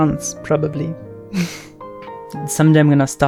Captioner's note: laughs